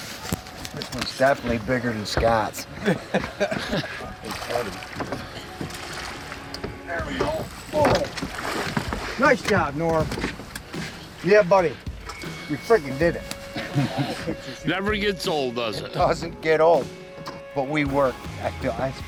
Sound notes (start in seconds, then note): 2.6 laughing